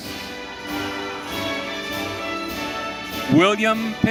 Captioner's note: audience cheering